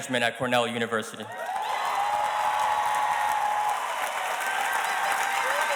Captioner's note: audience cheers and applauds